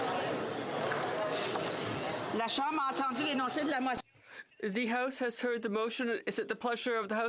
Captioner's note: some Applause